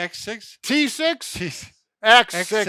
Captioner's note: chuckling